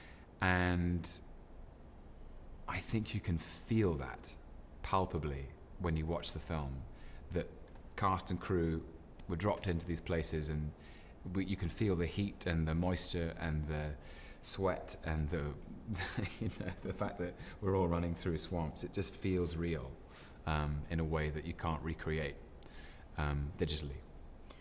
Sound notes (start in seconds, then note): 15.9 chuckles